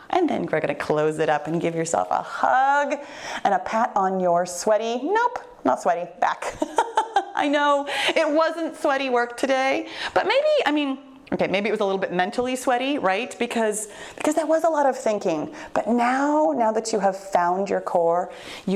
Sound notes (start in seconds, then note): 6.5 laughs